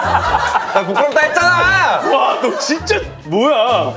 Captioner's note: bursting into laughter